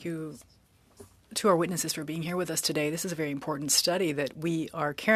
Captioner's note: speaking French